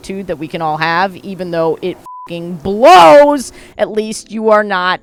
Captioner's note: beep